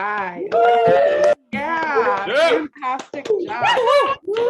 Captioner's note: members cheering